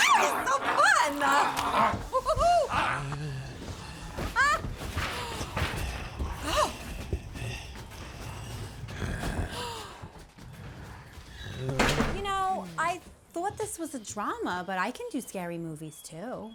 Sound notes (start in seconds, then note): 4.8 vivien gasps